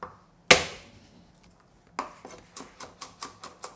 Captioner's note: knife tapping